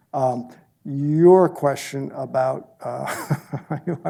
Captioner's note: laughs